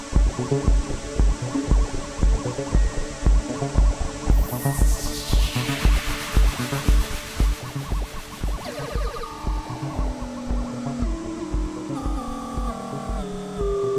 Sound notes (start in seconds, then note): 0.0 upbeat electronic music; 6.9 equipment powering down; 8.4 laser beeping; 13.0 equipment powering down